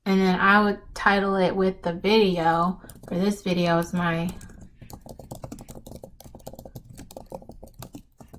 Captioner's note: typing intesifies